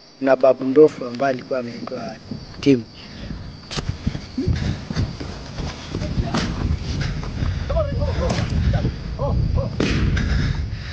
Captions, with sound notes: One of them being a big male called Tim. [heavy breathing]